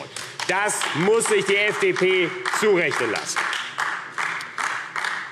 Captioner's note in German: Beifall AfD